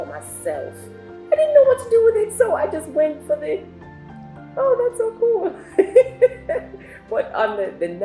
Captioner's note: laughs